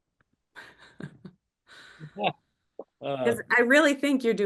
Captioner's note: laughter